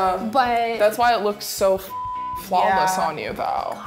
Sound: beep

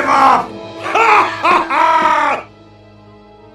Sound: manic laughter

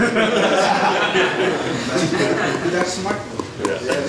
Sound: audience laughs

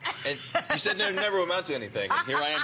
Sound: laughter

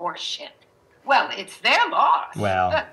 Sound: scoffs

